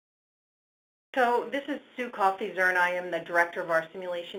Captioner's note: voiceover